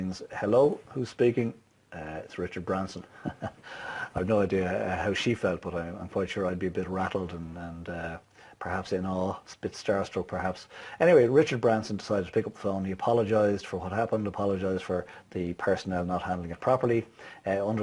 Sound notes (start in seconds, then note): 3.0 laughs